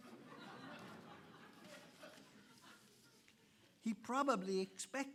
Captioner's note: audience laughing